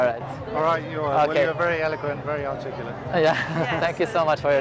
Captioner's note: laugh